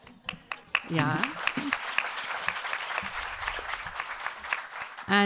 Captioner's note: audience clapping